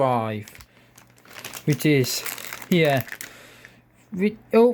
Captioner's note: bag rustling in the background